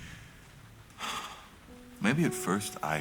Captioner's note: sighs